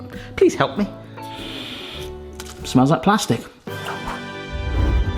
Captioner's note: sniffs; upbeat music